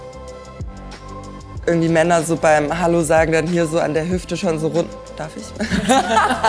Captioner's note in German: lacht